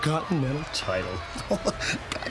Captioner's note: laugh